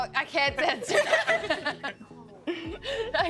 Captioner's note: all laughing